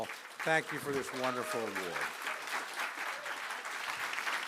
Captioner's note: applause